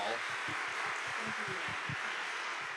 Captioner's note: audience applauding